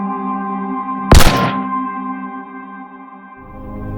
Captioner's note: gunshot